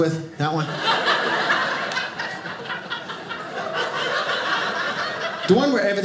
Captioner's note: audience laughing